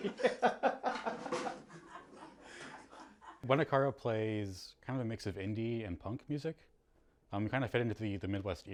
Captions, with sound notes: Scared me! (laughs) Buena Cara plays kind of a mix of indie and punk music.